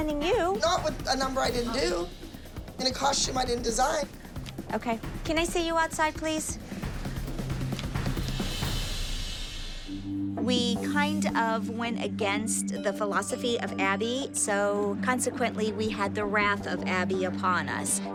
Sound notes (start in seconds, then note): none